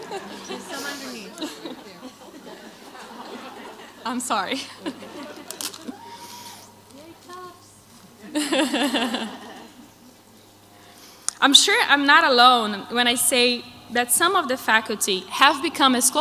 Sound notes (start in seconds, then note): 5.5 crowd laughs; 7.9 laughs